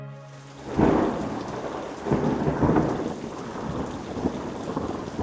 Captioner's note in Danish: regn siler; torden buldrer